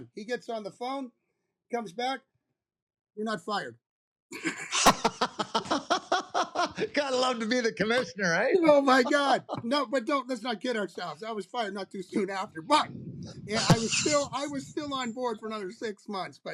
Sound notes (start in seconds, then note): 4.3 laughter